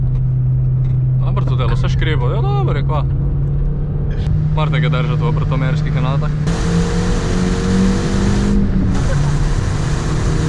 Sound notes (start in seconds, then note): 0.6 Xsara Creaks